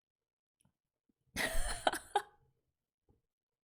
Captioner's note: laughs